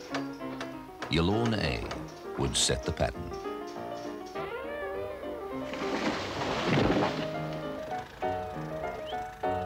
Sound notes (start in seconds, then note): 5.6 tree crashing; 7.6 engine running